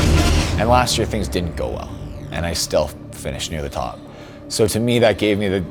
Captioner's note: none